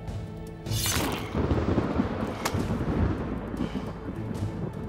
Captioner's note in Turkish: Gök gürültüsü efekti